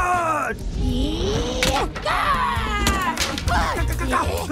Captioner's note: angry shout; both Konchos angry yelling